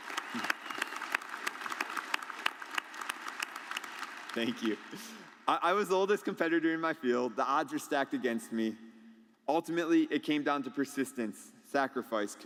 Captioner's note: applause